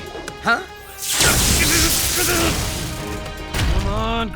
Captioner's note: sizzling